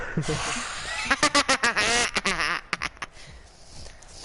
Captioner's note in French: Rire diabolique